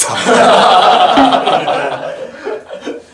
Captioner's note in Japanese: 笑い